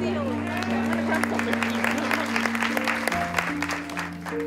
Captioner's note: applause